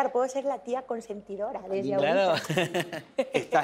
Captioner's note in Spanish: Risas